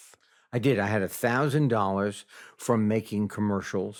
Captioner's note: none